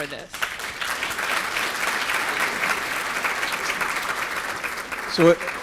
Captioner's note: applause